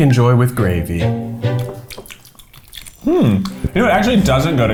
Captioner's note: quirky music; smacking lips